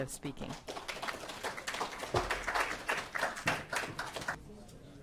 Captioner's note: audience applauding